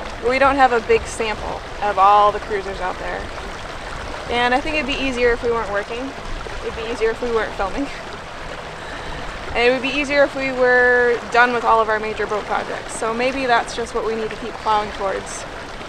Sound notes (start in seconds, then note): none